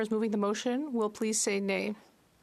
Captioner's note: speaking French